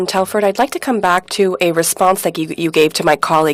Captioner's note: speaking in French